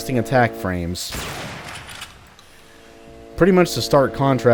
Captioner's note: bam